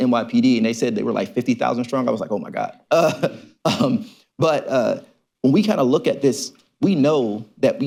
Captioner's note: laughs